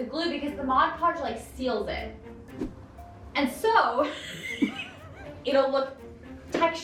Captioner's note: laughs